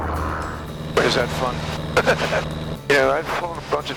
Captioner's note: laughs